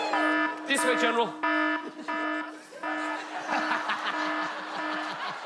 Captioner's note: siren blarin; siren continue; giggling and laughing off stag